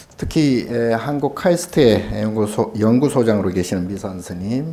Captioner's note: speaking Korean